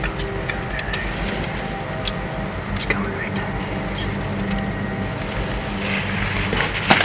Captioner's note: whispered voices